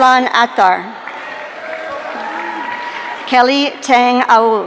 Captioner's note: audience cheering